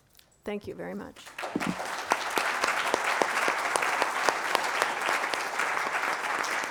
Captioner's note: applause